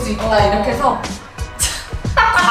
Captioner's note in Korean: 헛웃음